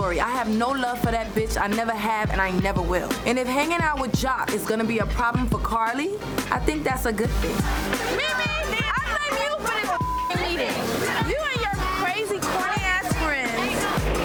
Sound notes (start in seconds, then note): 9.9 beep